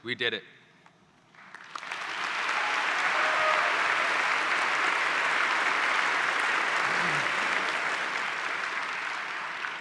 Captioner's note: applause